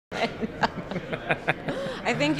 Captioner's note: laughing